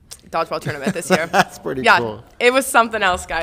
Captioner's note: laughs